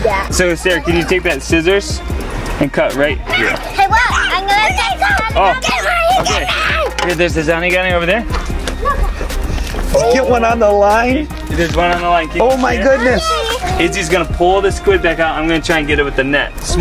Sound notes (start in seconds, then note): 3.2 yelling